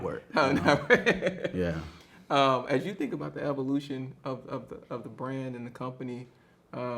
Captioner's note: laughs